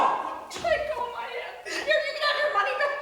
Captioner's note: crying